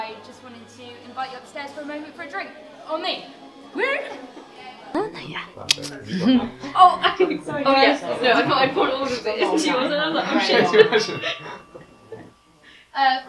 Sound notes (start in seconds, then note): 5.6 clicks tongue; 6.1 background chatter; 10.5 clinks a glass and chatter stops